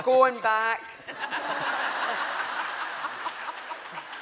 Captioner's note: laughing